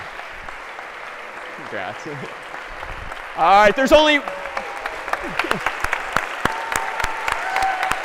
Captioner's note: ปรบมือ